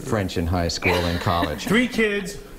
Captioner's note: laughter